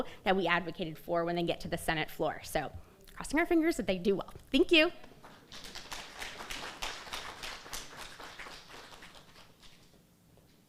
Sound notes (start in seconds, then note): 5.4 crowd applauding